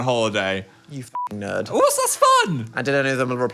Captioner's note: beep